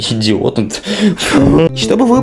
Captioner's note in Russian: звуки ненависти к себе